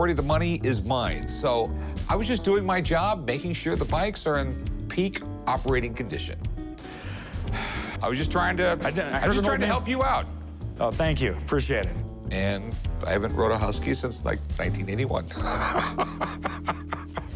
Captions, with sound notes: So I was just doing my job, making sure the bikes are in peak operating condition. [sighs] I was just trying to-- I was just trying to help you out. Oh, thank you. Appreciate it. And I haven't rode a Husky since like 1981. [laughs]